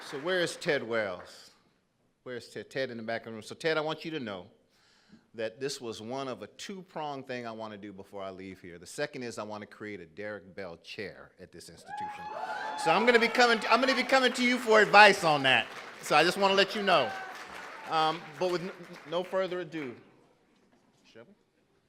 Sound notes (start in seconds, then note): 12.4 audience applauding and cheering